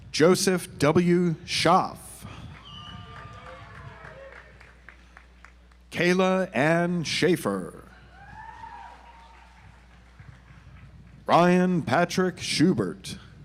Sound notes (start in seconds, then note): 2.5 audience applauds; 8.3 audience applauds